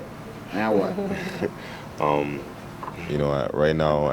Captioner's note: chuckle